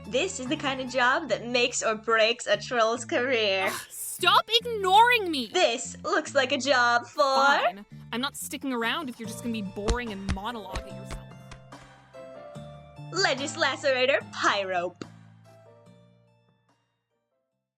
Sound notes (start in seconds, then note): 11.6 stomping noises receding